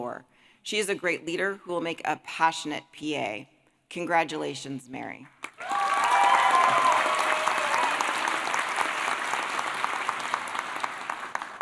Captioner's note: applause